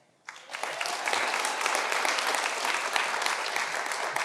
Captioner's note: audience applauding